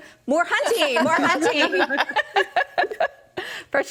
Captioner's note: all laughing